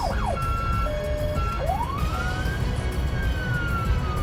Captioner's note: police sirens